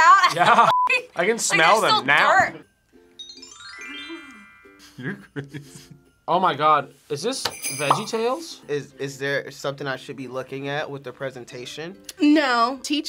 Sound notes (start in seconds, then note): 3.1 chimes ringing; 4.9 laughs